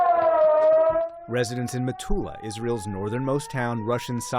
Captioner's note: sirens blaring